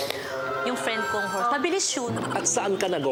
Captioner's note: silly sfx